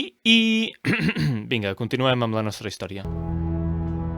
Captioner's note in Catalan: tos dissimulada